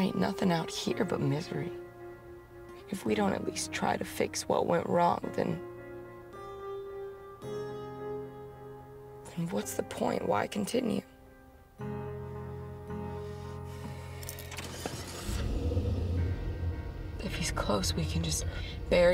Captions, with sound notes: There ain’t nothing out here but misery. If we don’t at least try to fix what went wrong then-- then what’s the point. Why continue? [Sighs] [Engine revs] If he’s close we can just bury--